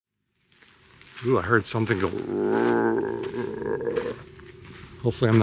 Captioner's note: growls